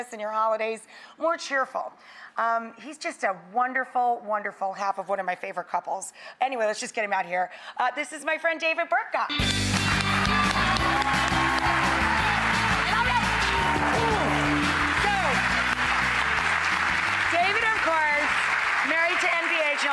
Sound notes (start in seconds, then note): 9.2 christmas rock music; 9.3 audience applause